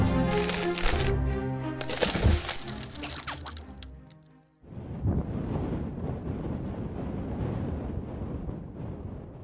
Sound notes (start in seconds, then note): 1.8 ice shattering